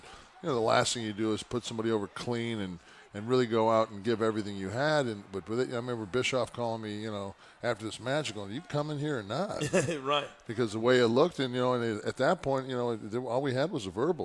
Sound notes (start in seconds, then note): 9.6 laugh